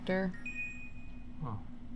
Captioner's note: success chime